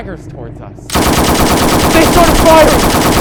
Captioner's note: rat-a-tat of German airplane guns